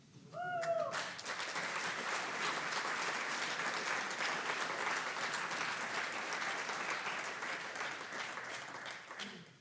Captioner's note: audience applauds